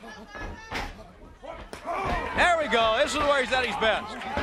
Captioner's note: crowd chatter